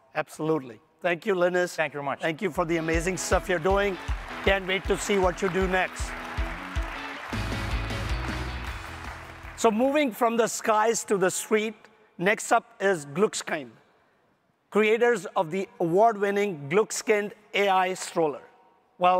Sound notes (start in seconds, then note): 6.3 audience applauding; 6.3 upbeat music